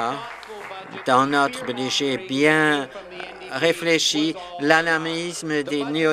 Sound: applause

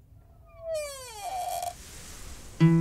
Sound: creaking sound

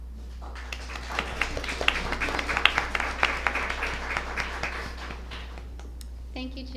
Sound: applause

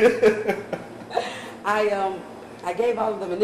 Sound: laugh

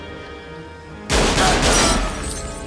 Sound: gunshots

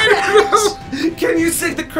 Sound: electronic bell chimes

